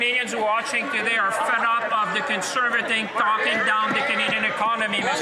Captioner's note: speaking French